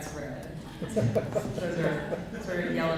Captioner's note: laughter